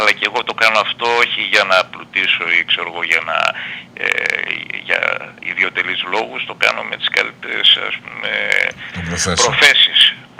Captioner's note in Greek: βογκητό